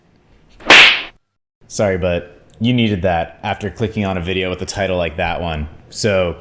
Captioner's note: smack